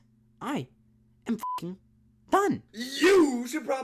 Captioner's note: beeps